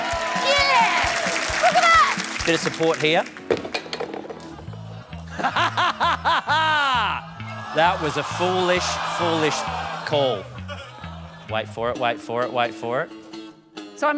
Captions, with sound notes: (APPLAUSE, CHEERING) Yes! Look at that! Bit of support here. (LAUGHS) That was a foolish, foolish call. Wait for it, wait for it, wait for it.